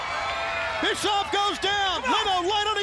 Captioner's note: crowd cheering